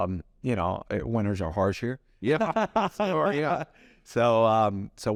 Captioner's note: laughs